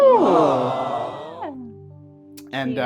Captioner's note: studio audience soundbite: AWWW; laughs